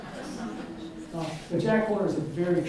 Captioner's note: audience laughs